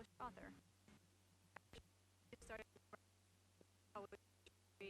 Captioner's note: stuttering audio